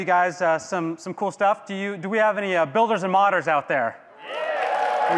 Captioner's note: audience cheering